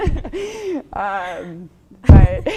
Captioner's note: pity laughter